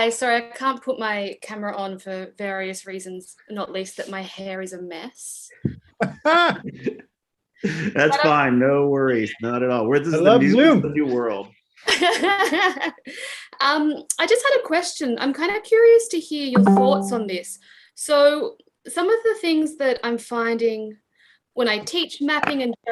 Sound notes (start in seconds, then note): 5.9 laughter; 11.8 laughter